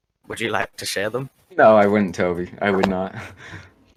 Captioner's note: giggle